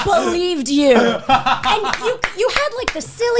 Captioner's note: guys laughing